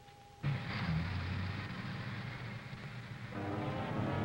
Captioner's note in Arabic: هدير السيارة; موسيقى درامية